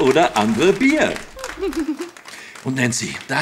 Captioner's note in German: kichert